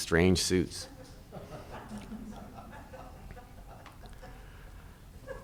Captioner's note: audience laughing